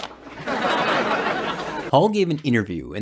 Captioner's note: audience laughing